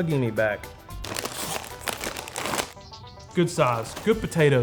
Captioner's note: packet crinkling